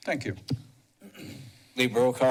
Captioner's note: clears throat